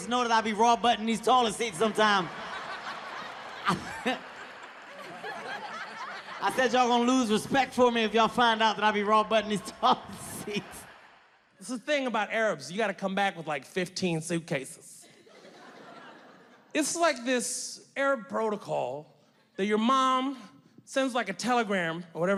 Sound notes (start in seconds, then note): 2.4 audience laughing